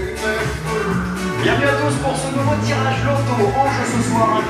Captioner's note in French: Voix OFF